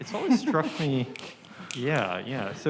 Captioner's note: someone chuckling